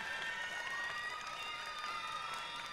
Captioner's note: applause